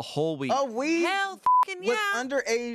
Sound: beep

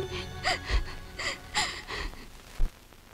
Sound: sobbing

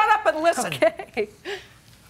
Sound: laughing

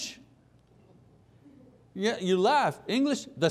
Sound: soft laughter

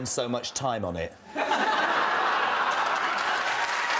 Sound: audience laughter and applause

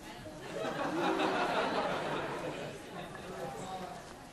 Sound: class laughing

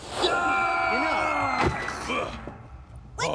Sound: Theo squeals; thud

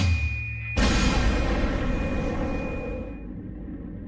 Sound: explosion

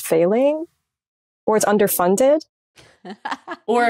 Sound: chuckles

